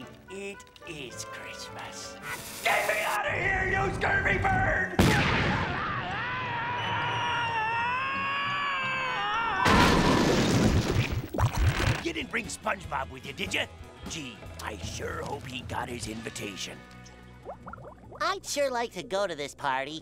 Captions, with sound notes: It is Christmas. Get me out of here, you scurvy bird! [screaming] You didn't bring SpongeBob with you, did you? Gee, I sure hope he got his invitation. I'd sure like to go to this party,